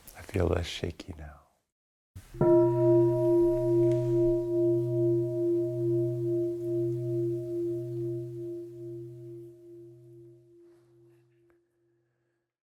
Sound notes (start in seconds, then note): 2.2 bell